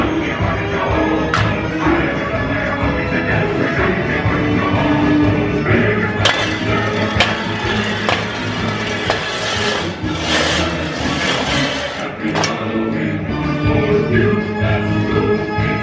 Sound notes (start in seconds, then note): 10.2 shovels clanging and scraping